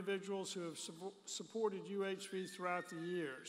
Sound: baby screaming

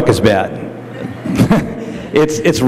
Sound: laughter

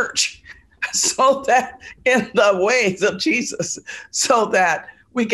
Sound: laughs

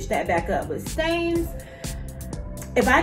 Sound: slowly sighs

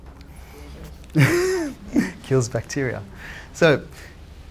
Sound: laughs

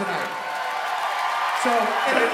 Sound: audience cheers

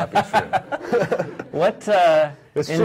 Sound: men laugh

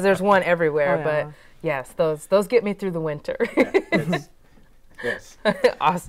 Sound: laughs

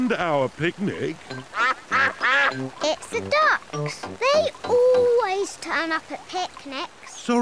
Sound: quacks

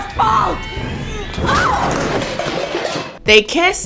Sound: metals clanging

